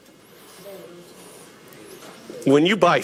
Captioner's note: audience murmuring